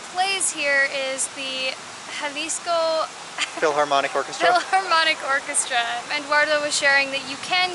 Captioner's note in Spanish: Risas